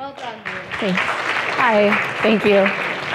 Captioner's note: applauding